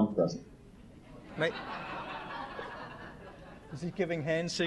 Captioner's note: laughter